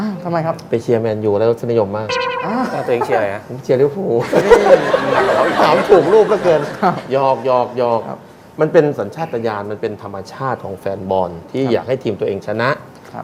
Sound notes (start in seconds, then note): 4.2 laughing sound